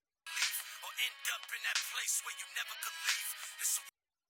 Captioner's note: phone rings